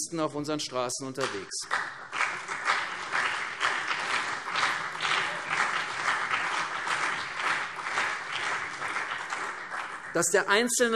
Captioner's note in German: Beifall CDU und BÜNDNIS 90/DIE GRÜNEN